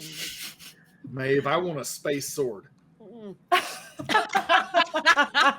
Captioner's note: all laughing